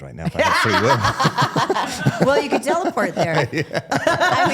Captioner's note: laughs